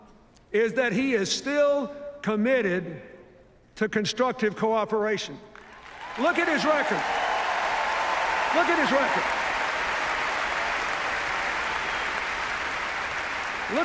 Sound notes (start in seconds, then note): 5.6 cheers, applause; 12.0 cheers, applause